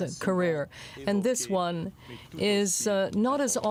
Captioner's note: speaking French